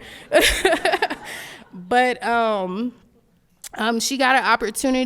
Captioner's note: laughs